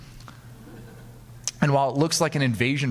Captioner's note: audience laughing